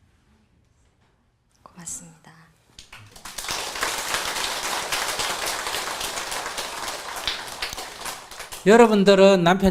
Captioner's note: applause